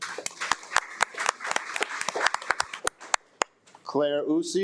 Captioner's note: attendees applaud